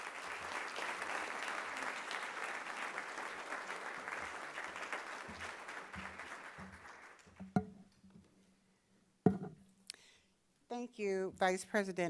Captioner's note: applause